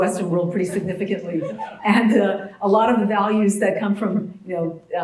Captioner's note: laugh